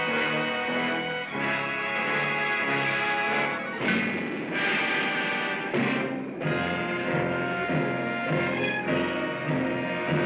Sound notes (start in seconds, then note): 0.0 dramatic music; 2.1 zapping sound; 3.8 boom; 5.9 dramatic music